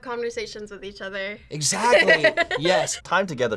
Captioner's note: laughs